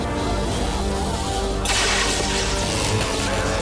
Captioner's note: water run